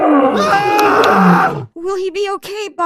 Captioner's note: screaming